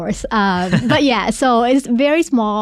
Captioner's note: laughing